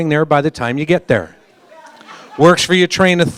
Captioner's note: polite laughter